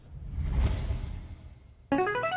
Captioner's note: player buzzer